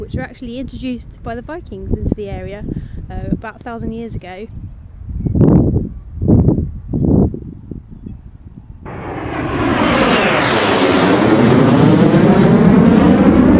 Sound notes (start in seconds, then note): 6.4 plane over head